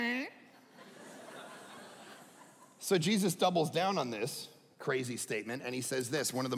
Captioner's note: audience laughing